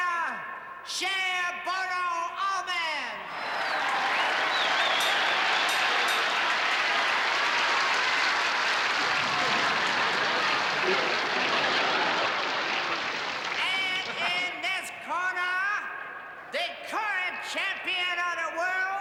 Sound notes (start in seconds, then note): 2.8 cheering; 5.6 bell rings